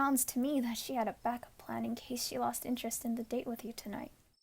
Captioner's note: none